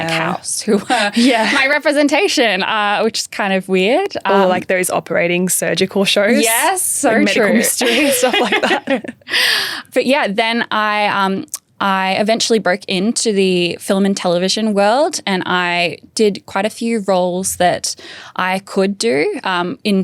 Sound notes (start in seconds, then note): 7.7 both laughing